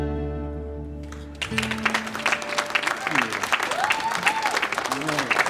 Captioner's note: audience applauds and cheers